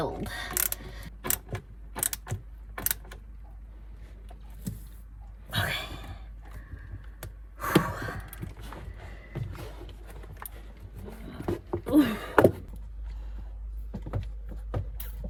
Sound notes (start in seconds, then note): 7.6 breathes out heavily; 11.0 grunts with effort